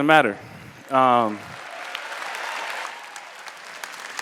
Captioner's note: applause